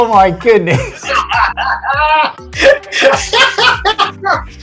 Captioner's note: laughing